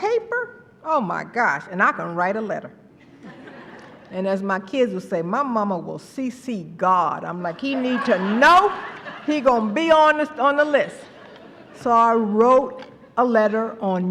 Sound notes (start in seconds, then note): 3.0 laughter